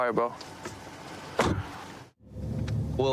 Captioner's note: car door closes